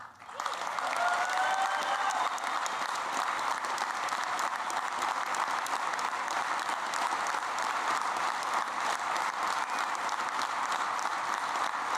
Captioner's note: applause